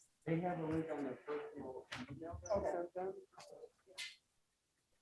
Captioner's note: members chatting